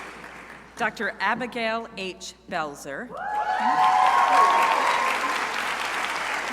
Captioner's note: crowd cheering